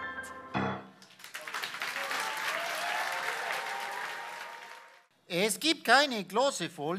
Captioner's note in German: Applaus